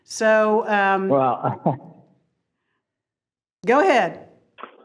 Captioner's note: chuckles